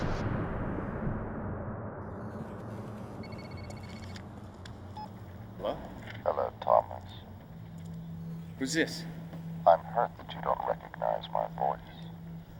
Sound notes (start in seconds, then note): 3.2 phone ringing